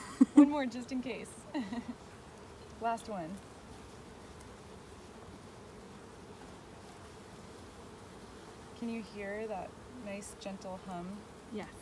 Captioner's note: laughter